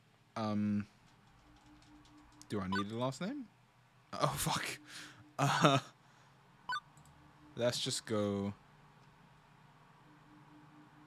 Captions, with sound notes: Um Do I need a last name? Oh fuck! *laughs* Uhh Let's just go...